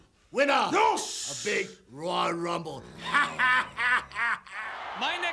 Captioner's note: laughs; audience cheers